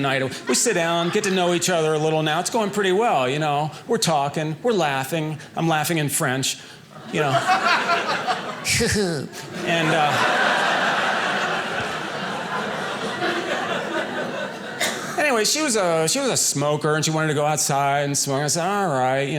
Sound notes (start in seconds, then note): 7.2 audience laughing; 9.7 audience laughing